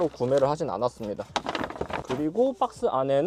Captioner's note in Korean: 부스럭